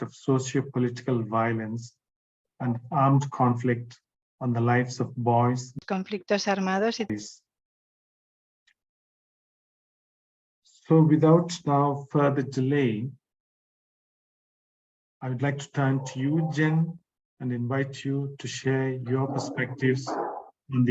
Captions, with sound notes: of sociopolitical violence and armed conflict on the lives of boys. (participant speaking in foreign language) So, without now further delay, I would like to turn to you Jen and invite you to share your perspectives